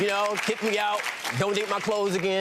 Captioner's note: clapping